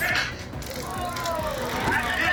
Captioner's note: taser crackling